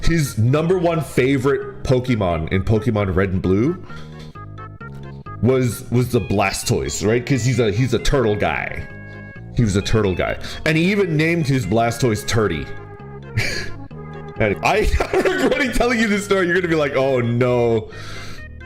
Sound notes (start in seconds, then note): 14.8 chuckles